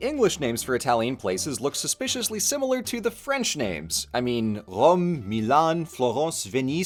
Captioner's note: French accent